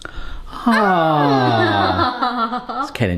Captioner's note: laughing